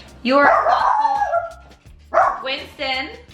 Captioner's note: barking